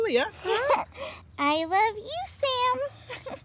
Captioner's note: laughs